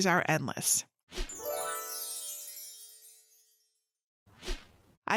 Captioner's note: gentle chiming